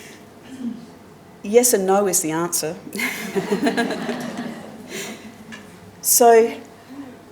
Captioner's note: laughter